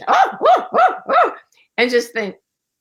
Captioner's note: monkey sounds